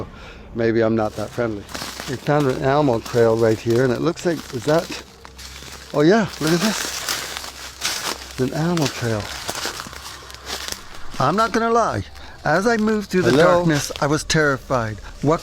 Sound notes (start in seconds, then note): 7.1 crackling sound